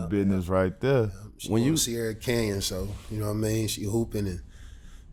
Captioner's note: murmurs